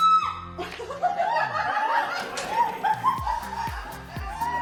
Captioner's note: screaming; laughing